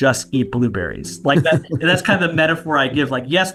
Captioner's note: laughing